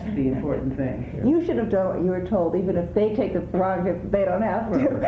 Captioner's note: laughs